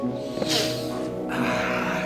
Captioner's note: snorting